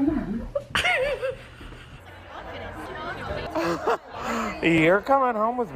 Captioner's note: female Speaker Laughs